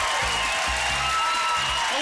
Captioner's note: applause